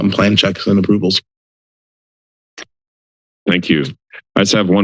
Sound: silence

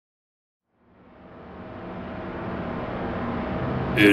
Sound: in the style of a movie trailer voice-over

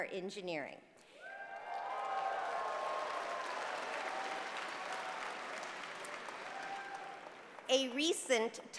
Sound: applause

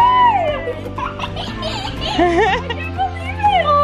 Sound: children laugh

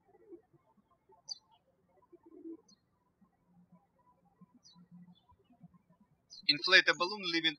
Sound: birds chirping

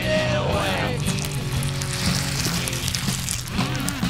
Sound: flesh tearing

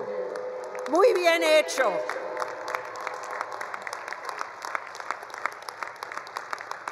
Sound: attendees applauding; speaks foreign language

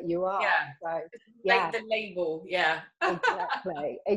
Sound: giggles

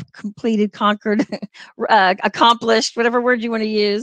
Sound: laughter

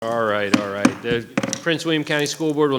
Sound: gavel thuds

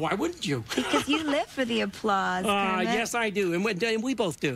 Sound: laughs

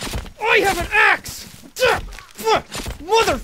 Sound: more sounds of killing a bitch

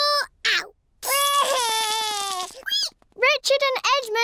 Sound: cries

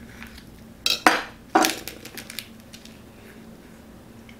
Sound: knife clinks

